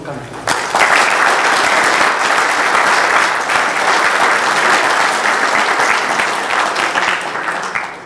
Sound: applause

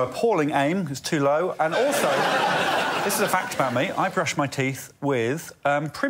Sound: laughter

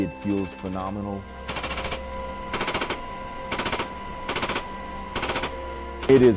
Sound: machine-gun fire

